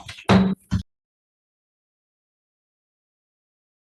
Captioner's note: gavel bangs